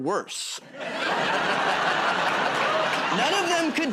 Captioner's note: laughter